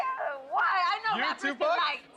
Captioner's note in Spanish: Hablan al unísono